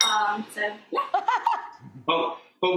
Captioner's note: laughing